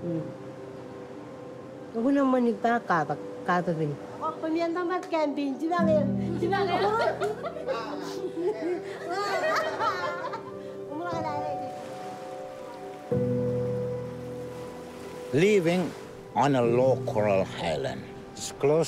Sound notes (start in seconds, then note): 4.4 speaks marshallese; 6.4 laughter; 11.0 poignant music